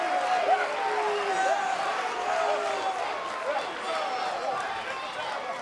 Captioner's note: cheers and applause